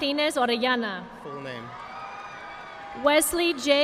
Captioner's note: audience applauding